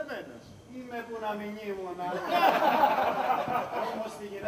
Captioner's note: γέλια